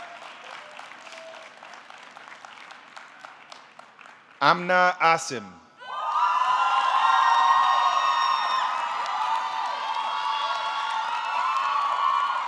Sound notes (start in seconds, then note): 0.0 audience cheering; 0.0 audience clapping; 5.9 audience cheering; 5.9 audience clapping